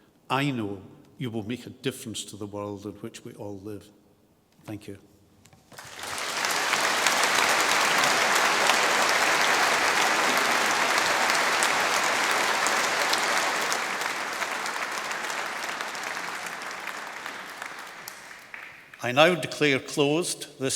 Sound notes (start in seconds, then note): 6.7 applause